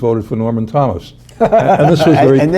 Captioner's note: laughter